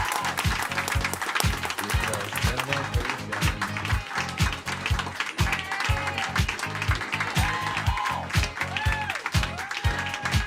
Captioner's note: cheers and applause